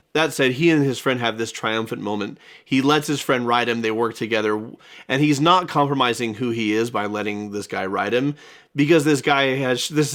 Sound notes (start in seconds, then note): none